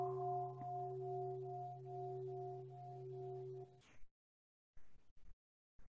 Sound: bell

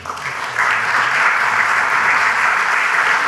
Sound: applause

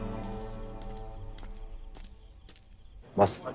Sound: footsteps

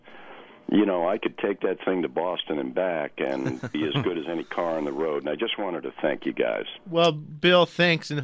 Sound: both laugh

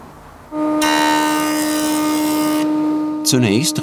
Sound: machine whirrs

